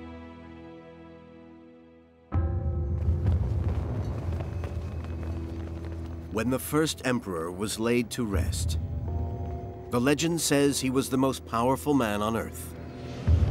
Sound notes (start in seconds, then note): 2.5 tense music; 3.0 flames crackling